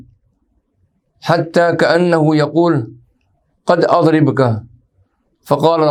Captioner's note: arabic